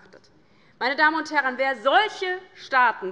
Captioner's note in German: none